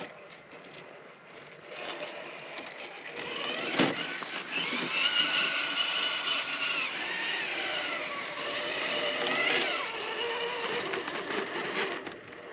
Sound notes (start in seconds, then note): 4.3 vroom! Vroom! Vroom!